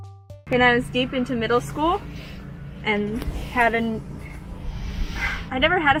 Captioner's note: sigh